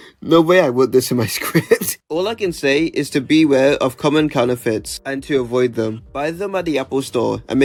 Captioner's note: laughs